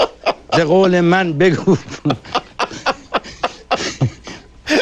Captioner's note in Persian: خنده